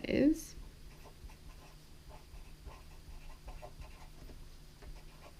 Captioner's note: pen scratching